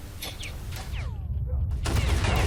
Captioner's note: gun shots